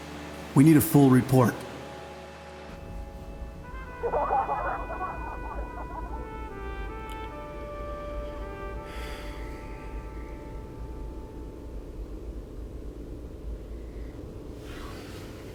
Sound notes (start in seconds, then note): 3.7 gentle music; 3.8 group laughing; 9.3 James sighs